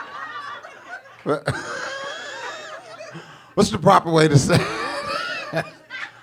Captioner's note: laughs; audience laughing